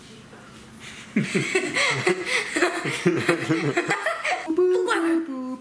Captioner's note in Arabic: ضحك